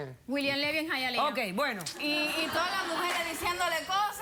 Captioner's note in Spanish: risas